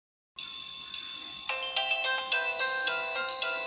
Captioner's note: phone chiming